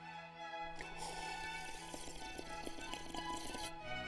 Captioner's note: tea whooshing